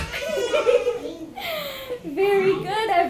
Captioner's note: laughs